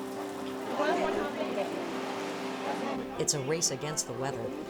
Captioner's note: rain pattering